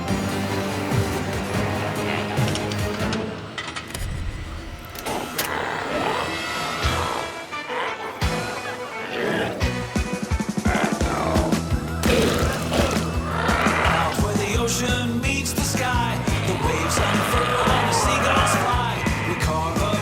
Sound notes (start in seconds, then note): 0.2 intense music continues; 5.6 glowzies growling; 7.5 energetic music